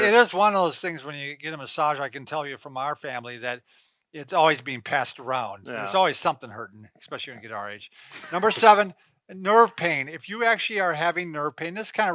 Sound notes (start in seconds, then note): 8.2 laughing